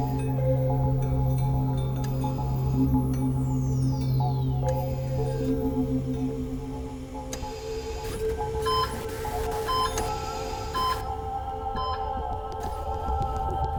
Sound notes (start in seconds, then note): 8.1 static buzzing; 8.6 machines beeping